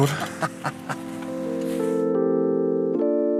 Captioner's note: laughs